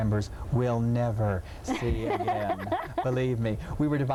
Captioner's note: laughing